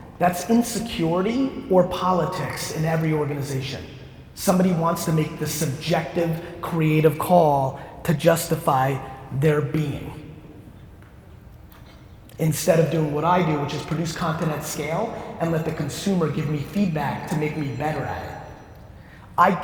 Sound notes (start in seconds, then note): none